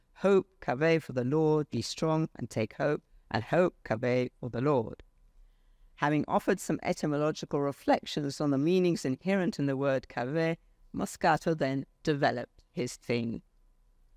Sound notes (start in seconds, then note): 4.7 speaks foreign language; 10.6 speaks foreign language